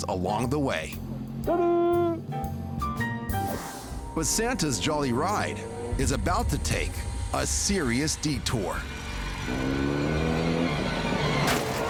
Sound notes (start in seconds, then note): 1.5 speaks in foreign language; 10.4 motorcycle whirring; 10.4 suspenseful music